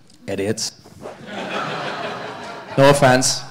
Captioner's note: audience laughing